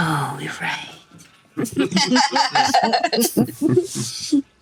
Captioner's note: all laugh